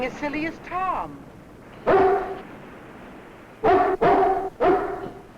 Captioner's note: dog barking